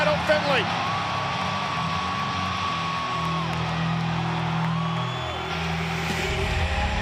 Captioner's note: crowd cheering; upbeat music continues